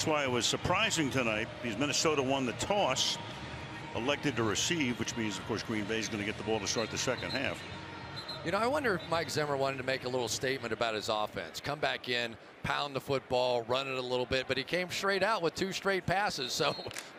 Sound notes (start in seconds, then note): 8.1 whistle